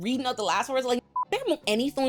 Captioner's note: beep